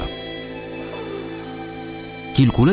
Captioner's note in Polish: ziewnięcie